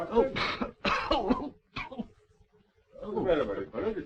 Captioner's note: coughing